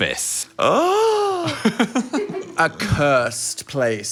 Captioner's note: laughs